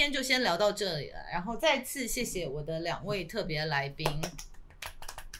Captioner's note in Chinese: 拍手